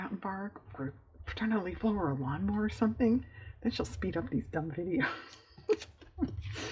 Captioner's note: laughs